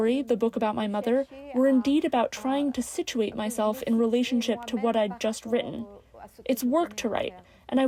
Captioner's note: speaking french